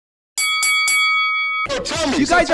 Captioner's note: bell dinging